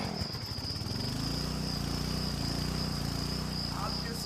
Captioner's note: motor sputters; motor rumbles